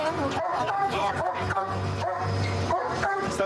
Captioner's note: barking